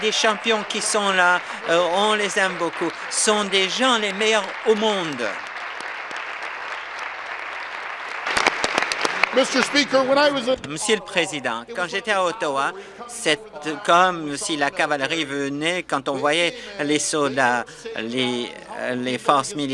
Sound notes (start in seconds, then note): 3.4 applause